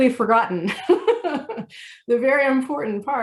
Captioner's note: laughing